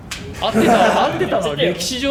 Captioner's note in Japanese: 笑い声